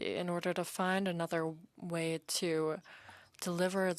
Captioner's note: speaking French